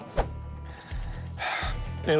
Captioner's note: sighs